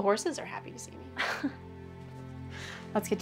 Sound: Maria laughs

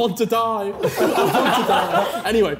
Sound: laughing

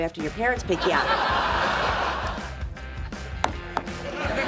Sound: laughing

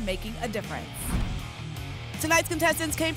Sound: whoosh

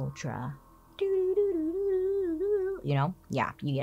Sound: hums mysterious tune

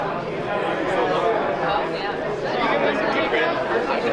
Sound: group chattering

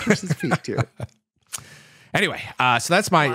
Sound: laughs

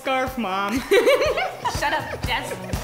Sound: laughing

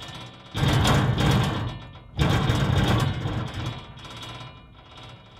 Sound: mechanical sounds

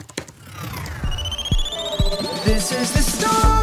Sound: electronics whirring

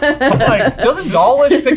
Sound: laughing

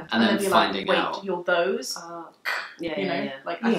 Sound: throat cracking

